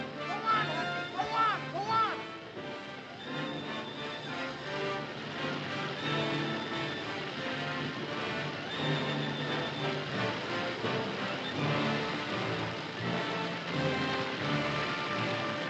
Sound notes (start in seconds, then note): 3.4 dramatic music; 4.9 fire roaring; 15.4 dramatic music